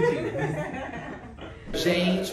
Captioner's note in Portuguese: risos